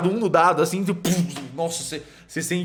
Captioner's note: poof